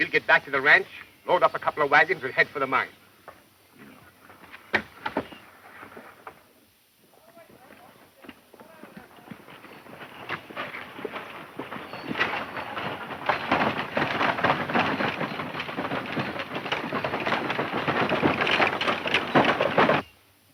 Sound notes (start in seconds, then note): 7.8 horses galloping; 12.5 wagon rattling